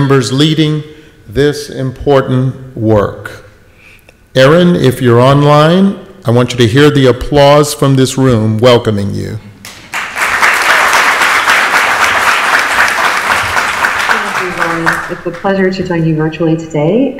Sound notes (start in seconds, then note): 9.6 audience applauding